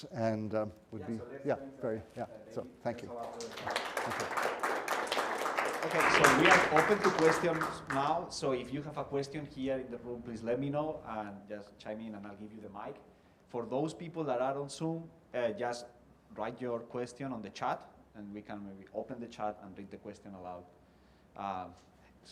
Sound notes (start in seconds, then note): 3.0 applause